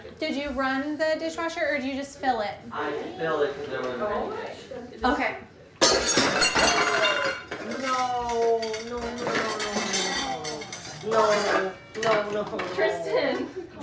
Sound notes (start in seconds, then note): 5.8 glass bowl shatters